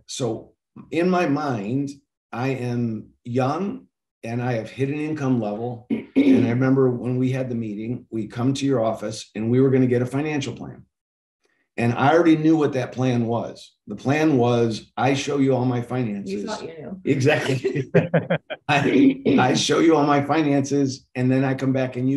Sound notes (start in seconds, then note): 17.0 laughing